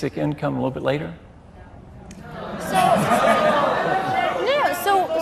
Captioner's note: boos